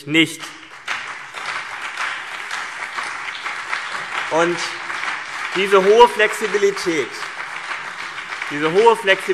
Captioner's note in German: Beifall CDU und BÜNDNIS 90/DIE GRÜNEN